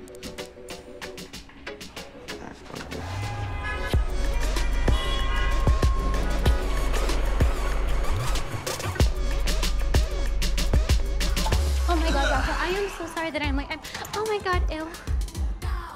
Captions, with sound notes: (horns honking) (lively music) - Oh, my God, Rafa, I am so sorry that I'm late. Oh, my God, ew.